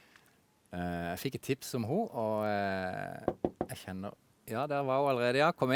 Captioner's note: knocks on the door